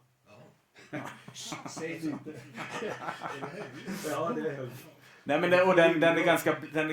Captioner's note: laughter